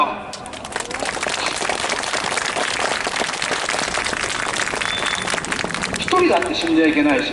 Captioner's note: clapping